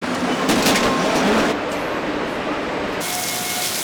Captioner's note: machinery whirring